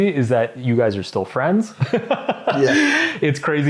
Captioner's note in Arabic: يضحك